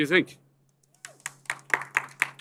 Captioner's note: applause